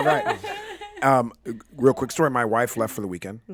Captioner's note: group chuckles